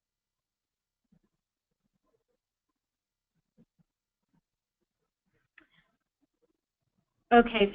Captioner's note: pause